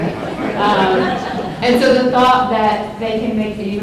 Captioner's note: laughter